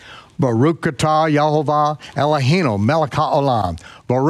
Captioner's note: speaks Hebrew